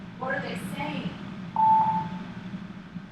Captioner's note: phone beeping